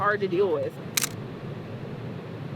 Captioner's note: camera Shutter